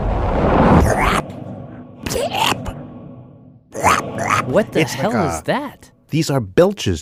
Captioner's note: belching sounds